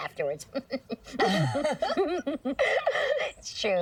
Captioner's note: chuckling